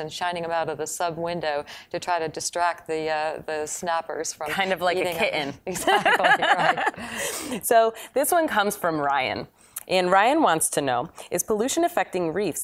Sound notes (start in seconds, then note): 5.6 laughing